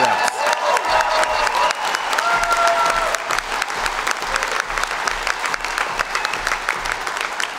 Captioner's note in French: Acclamations et applaudissements